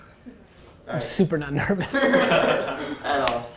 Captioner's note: laughter